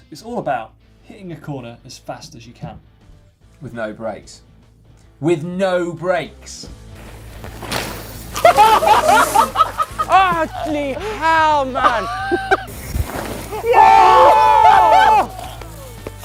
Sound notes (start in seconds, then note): 6.8 bike thuds; 8.3 people shout and laugh; 13.5 people whoop and laugh